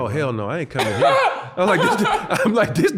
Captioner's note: laughing